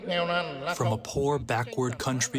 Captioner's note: through translator